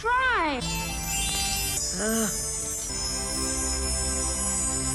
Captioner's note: gold tinkling